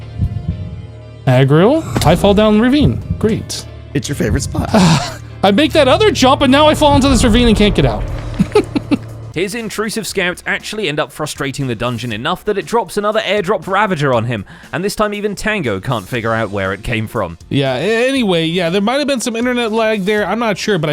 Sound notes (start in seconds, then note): 4.6 sighs; 9.0 laughs